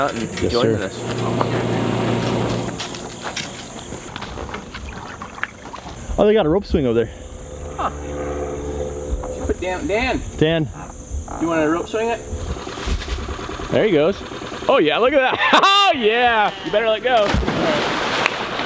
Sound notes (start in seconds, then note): 2.6 footsteps plodding; 4.7 water splashing; 15.0 laughing; 16.1 splashing; 18.4 clapping